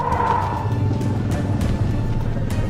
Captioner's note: animals calling; rumbling